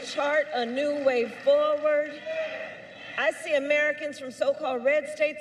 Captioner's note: applause